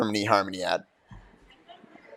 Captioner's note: laughter